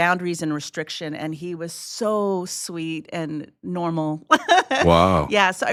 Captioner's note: laughs